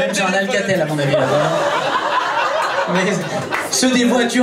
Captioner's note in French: rires public